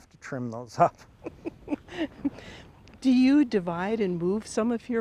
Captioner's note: chuckles